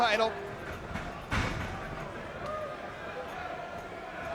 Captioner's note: feet pounding; crowd chattering